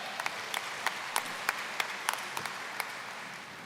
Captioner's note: applause